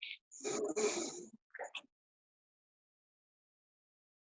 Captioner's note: both sniffing